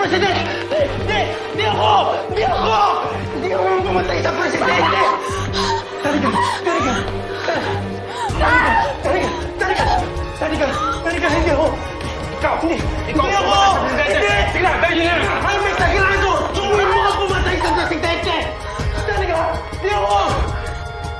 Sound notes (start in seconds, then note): 7.1 sobs